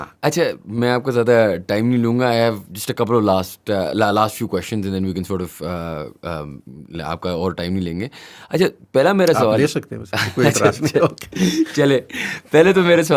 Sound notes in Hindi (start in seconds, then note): 10.1 हंसी; 12.1 अचानक ज़ोर से सांस लेने की आवाज़